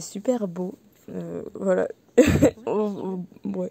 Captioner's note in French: rire